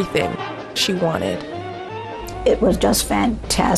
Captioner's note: soundbite of archived recording